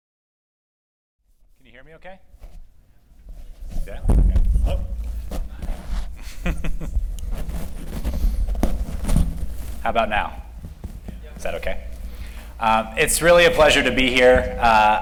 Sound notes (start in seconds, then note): 6.2 laughter